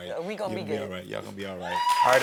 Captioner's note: audience cheering